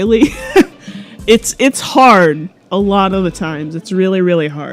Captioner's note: laughs a little bit